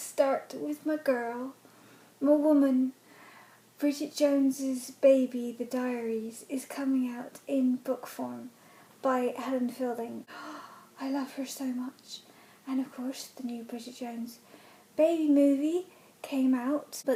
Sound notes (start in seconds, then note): 10.3 gasp